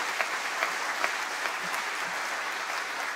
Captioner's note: applause